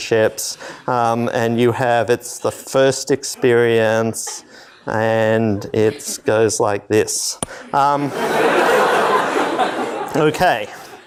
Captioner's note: laughter